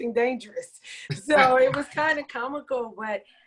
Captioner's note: participants laughing